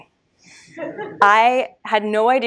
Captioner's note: audience laughs